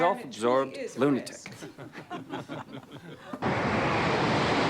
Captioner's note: laughter